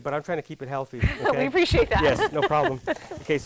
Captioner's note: laughs